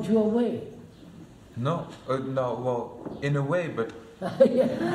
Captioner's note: laughter